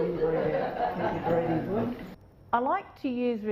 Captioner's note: laughter